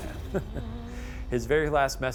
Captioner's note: chuckling